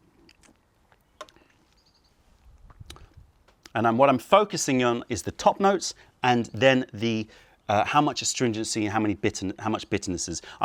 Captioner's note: sips tea